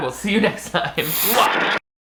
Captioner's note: laughs; TV static